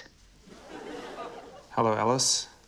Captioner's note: laughter